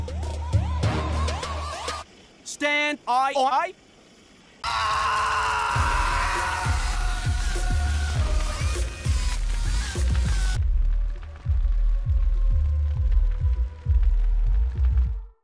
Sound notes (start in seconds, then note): 4.6 agonized screaming